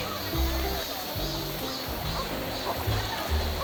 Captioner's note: people having an exciting time